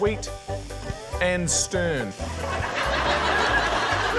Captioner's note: laughter